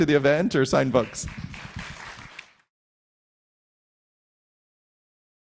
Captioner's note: audience applauding